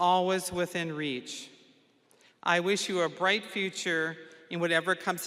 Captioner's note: none